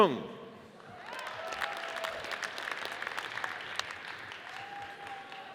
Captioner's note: audience cheers and applauds